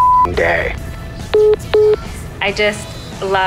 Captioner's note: phone message beeping